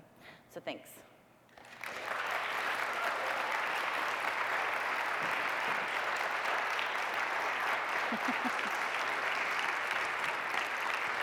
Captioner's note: applause